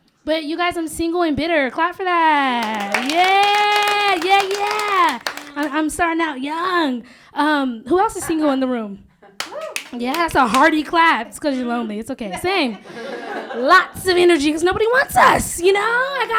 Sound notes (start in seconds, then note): 2.3 applause; 9.4 cheering